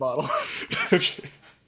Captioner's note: laughing